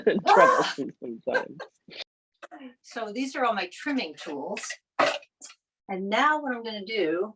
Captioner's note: laughs